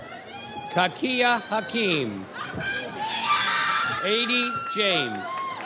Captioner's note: audience cheers